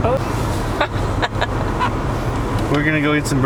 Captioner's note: laughing